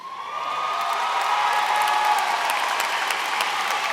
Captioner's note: applause